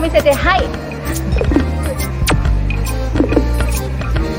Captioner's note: foreign language